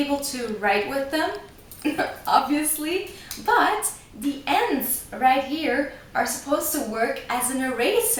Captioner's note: giggles